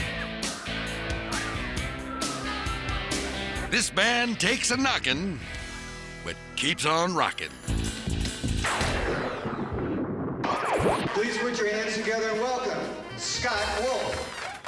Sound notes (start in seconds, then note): 0.0 upbeat music; 8.6 lightning cracks; 13.0 audience applauds